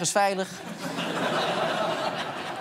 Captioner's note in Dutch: gelach